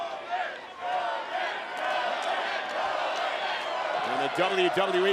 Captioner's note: crowd cheering